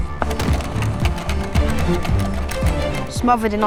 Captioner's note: footsteps approaching; door handle rattling